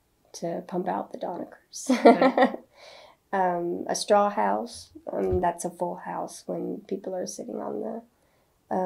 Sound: laughs

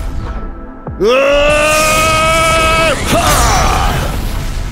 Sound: charging Yell

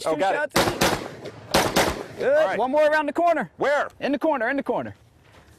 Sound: gunshots

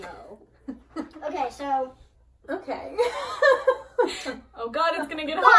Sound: laughs

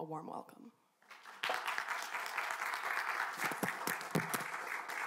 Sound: audience clapping

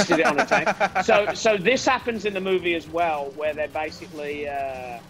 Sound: laugh

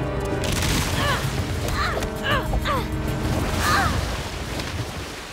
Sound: groaning

